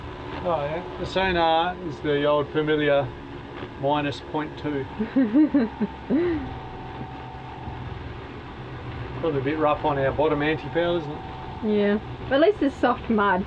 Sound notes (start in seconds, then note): 5.0 laughing